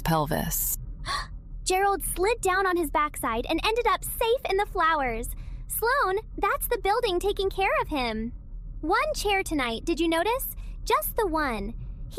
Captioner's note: gasp